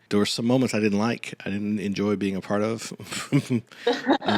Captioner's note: laughing; laughs